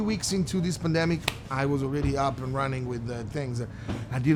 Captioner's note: clap